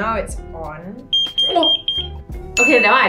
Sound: shocked again by pager ring

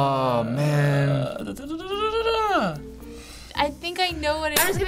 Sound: humming

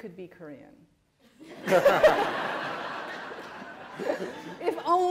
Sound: laughter

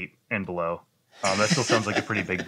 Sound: laughter

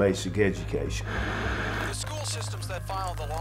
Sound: TV white noise

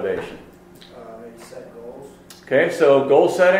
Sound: voiceover

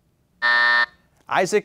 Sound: buzzer

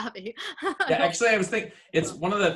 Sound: laughing

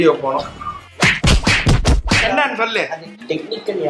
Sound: booomm!!

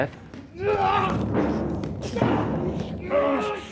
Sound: grunting

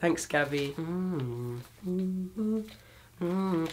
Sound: hums quietly

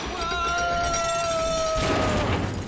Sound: crash!

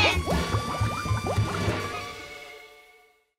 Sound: bubble sounds

